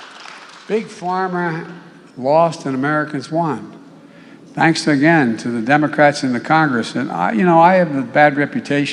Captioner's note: applause